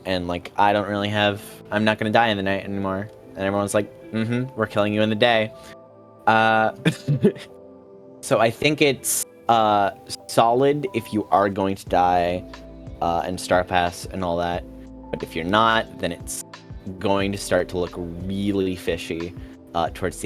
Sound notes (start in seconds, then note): 6.7 chuckles